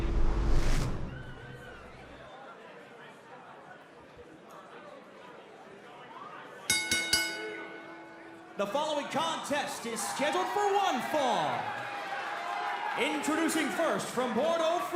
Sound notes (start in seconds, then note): 6.7 bell ringing